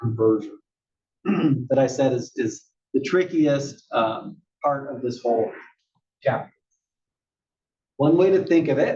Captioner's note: cough